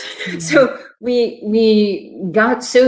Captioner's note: laughs